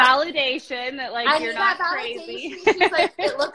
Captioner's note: laughs